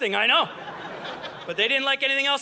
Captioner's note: audience laughing